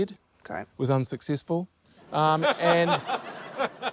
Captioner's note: laughter